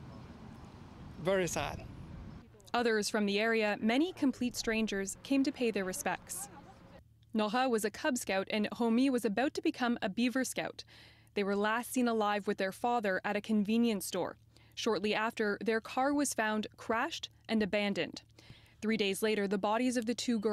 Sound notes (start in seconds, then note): 1.6 speaking French